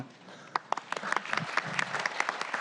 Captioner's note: applause